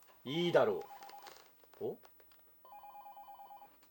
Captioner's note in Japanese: 電話の音